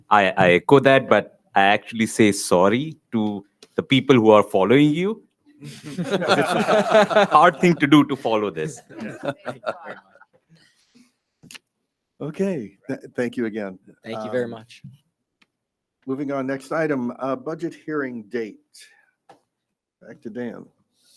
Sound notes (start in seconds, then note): 5.6 members laughing